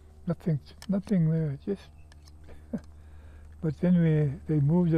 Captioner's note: laughs